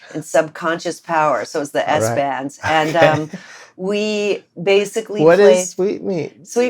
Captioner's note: laughter